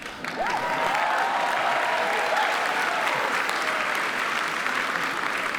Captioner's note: attendees cheer and applaud